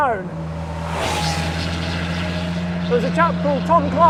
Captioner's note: car engine roaring